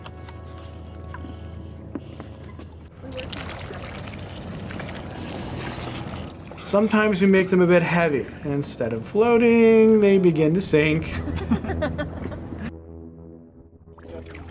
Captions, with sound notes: (water splashing) Sometimes we make them a bit heavy and instead of floating they begin to sink. (students laughing)